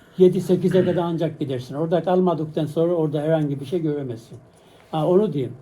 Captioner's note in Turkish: boğazını temizler